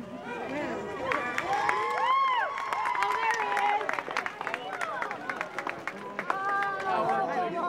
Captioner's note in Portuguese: aplausos